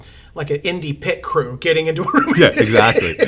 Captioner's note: laughing